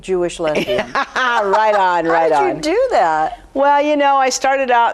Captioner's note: laughs